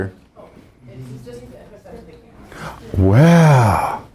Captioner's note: students commenting